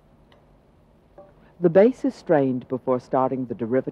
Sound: voiceover

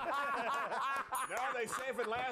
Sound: laughter

